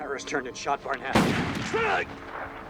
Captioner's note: screaming